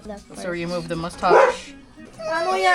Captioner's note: bark